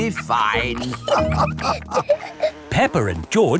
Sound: all laughing

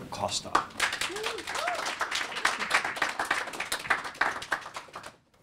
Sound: audience clapping

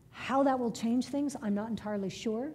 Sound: none

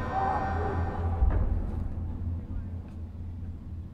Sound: troops yelling; reverberating thud

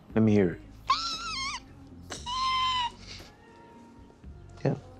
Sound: imitates pterodactyl screech

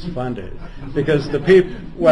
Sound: laughter

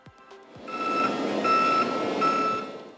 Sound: horn pulsing

